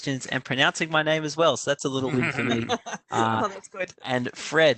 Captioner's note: laughter